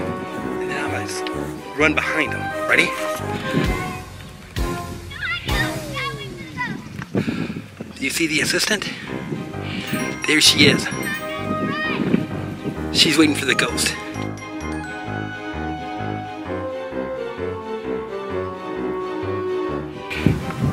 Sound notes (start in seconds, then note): 5.0 kids yelling in background; 15.3 spooky music